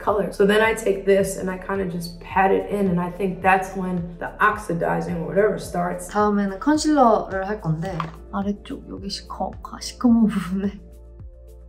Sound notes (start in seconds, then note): 6.1 speaking in Korean